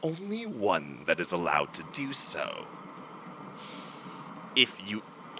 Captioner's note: vocal distortion grows